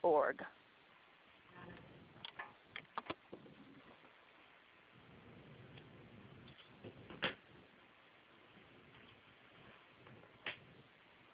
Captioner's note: silence